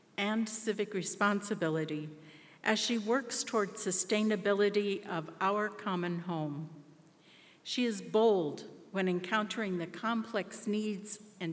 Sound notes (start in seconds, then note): none